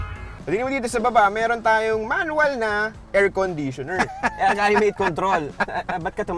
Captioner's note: laughing